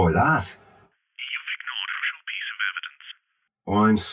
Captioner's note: on phone